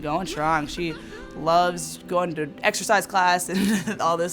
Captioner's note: chuckles